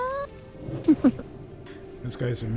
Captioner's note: laughing